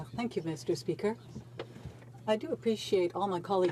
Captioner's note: speaking French